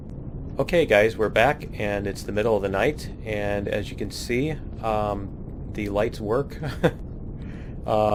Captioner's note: laughs